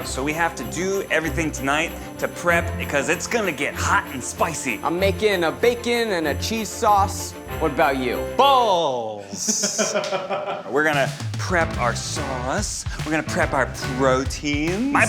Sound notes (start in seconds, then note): 9.3 laughs